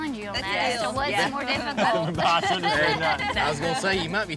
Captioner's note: everyone laughs